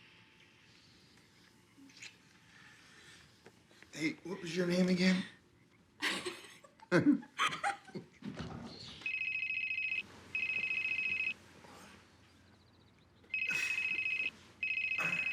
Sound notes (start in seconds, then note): 6.0 both laugh; 10.3 cell phone ringing